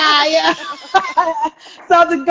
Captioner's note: laughing